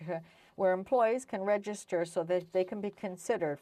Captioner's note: speaking French